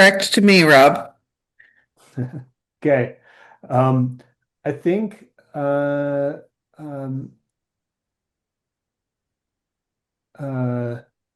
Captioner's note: laughs